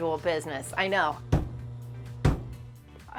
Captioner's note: metal thuds